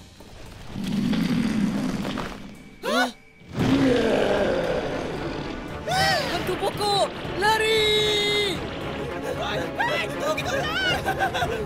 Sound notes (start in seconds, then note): 0.7 low growling; 3.4 roar